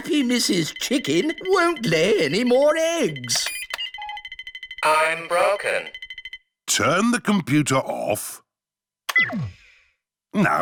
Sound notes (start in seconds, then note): none